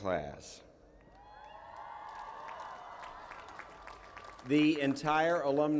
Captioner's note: cheering